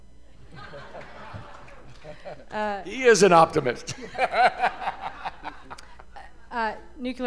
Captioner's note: laughter